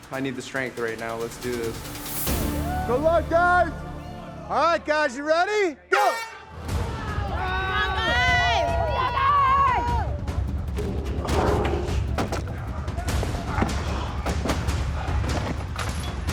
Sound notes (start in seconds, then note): 6.0 horn blows; 7.3 crowd cheering; 11.1 dramatic music